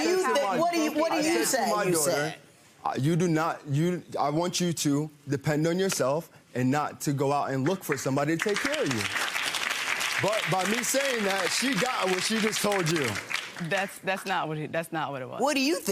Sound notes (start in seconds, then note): 7.6 audience claps